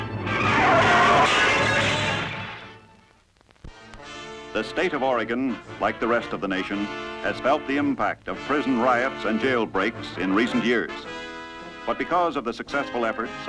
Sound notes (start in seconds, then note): 0.1 tires screeching